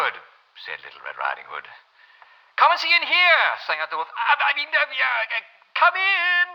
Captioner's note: German accent